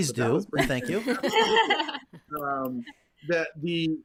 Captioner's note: laughing